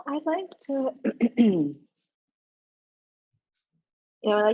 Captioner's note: coughs